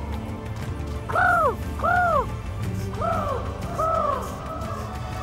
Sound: imitates bird call

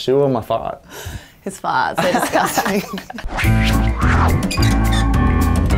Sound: laughing

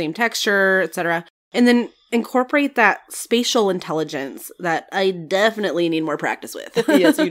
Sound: laugh

